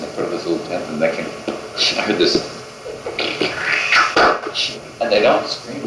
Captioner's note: gurgles